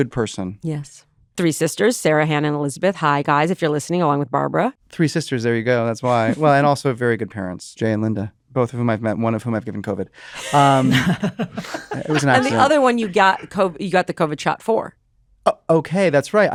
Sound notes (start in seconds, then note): 10.4 laughter